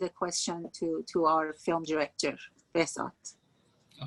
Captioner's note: speaking Farsi